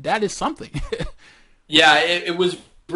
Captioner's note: laughter